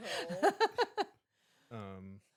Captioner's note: laughing